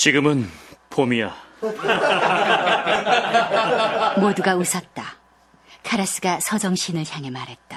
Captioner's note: laughs